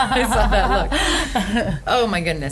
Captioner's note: laughing; laughs